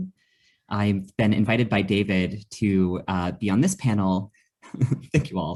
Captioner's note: laughs